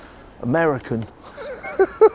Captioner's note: laughs